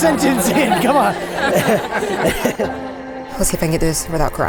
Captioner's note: laughs